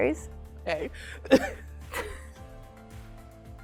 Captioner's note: both chuckling